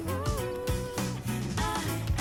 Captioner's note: lively chatter